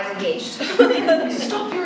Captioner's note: laughing